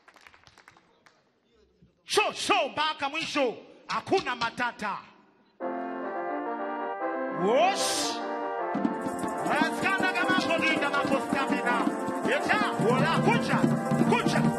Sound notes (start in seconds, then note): 2.1 man speaking in language other than English; 5.7 upbeat music